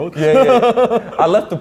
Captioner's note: laughs